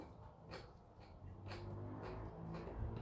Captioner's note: crunch crunch